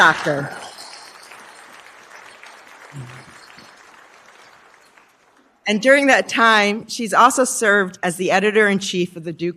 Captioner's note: applause